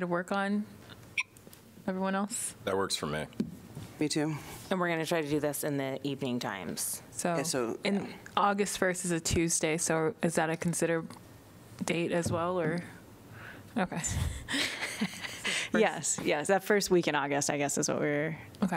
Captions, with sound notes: work on? Everyone else? That works for me. Me too. Then we're going to try to do this in the evening times. So in August versus a Tuesday. So is that a consider date as well or? Okay. [LAUGHTER] Yes. Yes. That first week in August, I guess that's what we're- Okay.